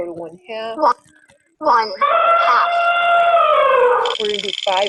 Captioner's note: voiceover; elephant trumpeting